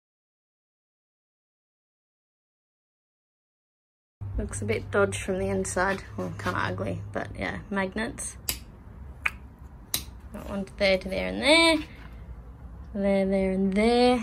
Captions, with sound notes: Looks a bit dodge from the inside. Well, kind of ugly, but, yeah. Magnets [magnet clicks] [makes click noise with mouth] [magnet clicks again] That one to there, and there, and there! There, there, and there.